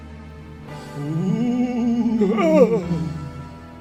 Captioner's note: ghost noises; exclamation of surprise